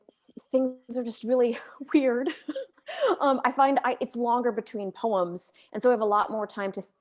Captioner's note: laughs